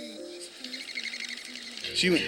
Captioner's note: birds tweeting